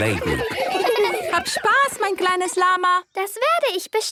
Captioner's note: laughter; speaking German